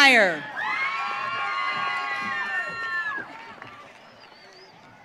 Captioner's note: audience cheering